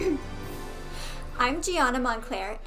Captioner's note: Gigi clears throat